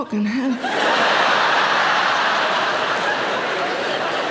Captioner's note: audience laughing